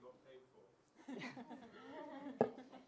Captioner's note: laughter